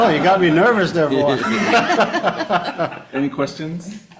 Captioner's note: audience laughing